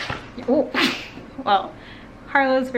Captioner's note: laugh